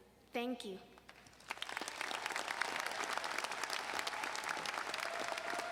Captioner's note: audience applauding